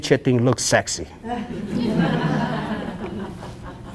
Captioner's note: audience Laughs